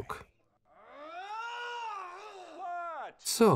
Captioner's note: yelling